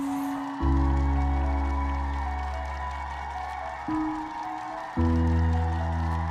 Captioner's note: crowd cheering; soft music